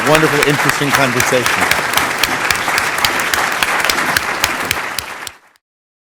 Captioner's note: applause